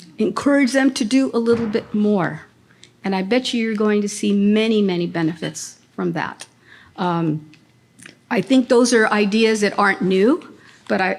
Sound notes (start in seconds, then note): none